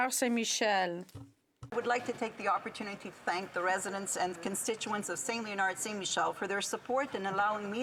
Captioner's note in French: voix de l'interprète